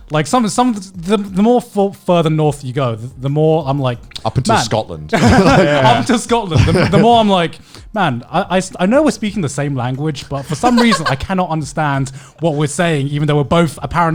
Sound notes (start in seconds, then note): 5.1 laughing